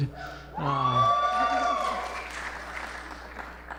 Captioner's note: cheering and applause